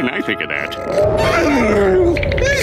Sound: groaning; shivering

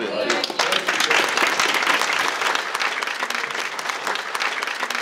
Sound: crowd clapping

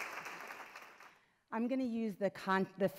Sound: applause

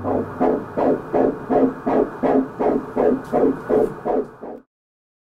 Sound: heartbeat sounds

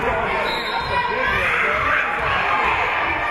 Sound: whistle being blown; spectators shouting encouragements

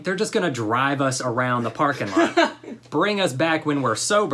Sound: laughter

